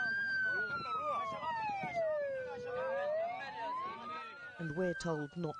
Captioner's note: coastguard siren